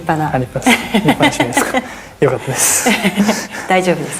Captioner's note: laughs